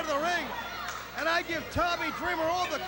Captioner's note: crowd chatter